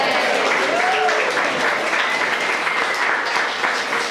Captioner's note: cheering and applause